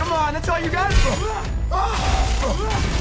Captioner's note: growls